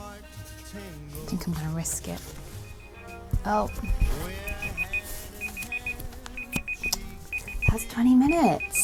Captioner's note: beeping